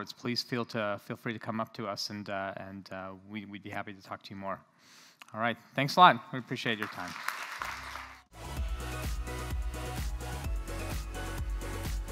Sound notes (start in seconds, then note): 6.7 applause